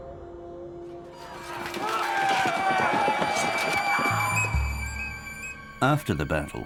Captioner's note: men yelling; swords clanging